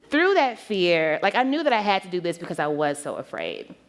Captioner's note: none